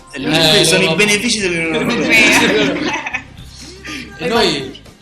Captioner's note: laugh